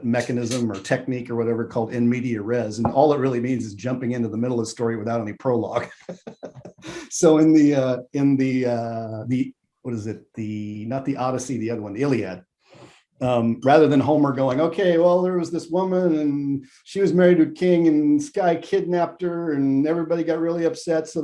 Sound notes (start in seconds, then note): 5.6 laughs